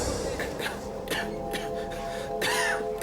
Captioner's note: coughing